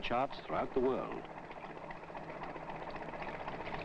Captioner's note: boat engine running